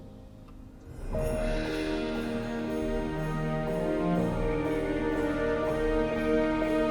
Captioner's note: light music; bells jingling